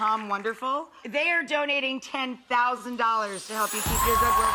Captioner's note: audience applauding